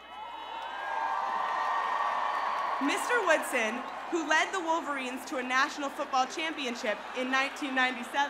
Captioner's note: cheers and applause